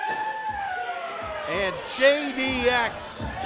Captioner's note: crowd chanting